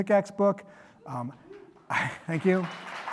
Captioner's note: applause